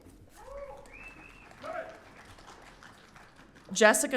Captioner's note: audience cheering